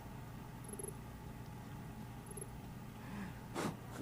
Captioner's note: text beeping